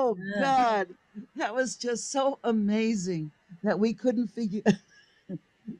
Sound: laughs

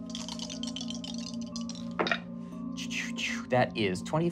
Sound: rolling dice

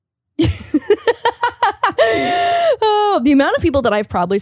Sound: laughing

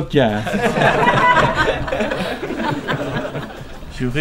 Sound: laughing

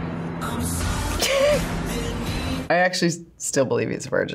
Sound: laughs

